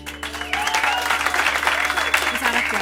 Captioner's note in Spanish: Aplausos